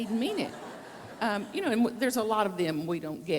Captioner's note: audience laugh